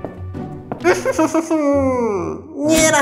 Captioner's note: creepy laugh